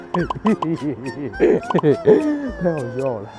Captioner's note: hehehehehe